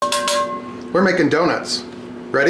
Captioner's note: pan clanging